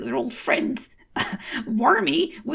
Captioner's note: snicker